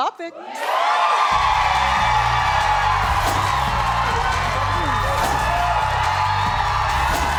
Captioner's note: audience cheering; deep rhythmic music